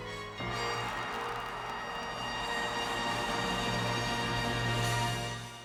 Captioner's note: audience cheering and applauding